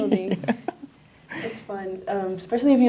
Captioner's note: laughs